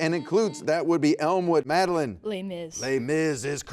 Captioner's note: buzzer beeps